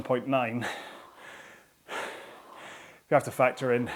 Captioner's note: breathing heavily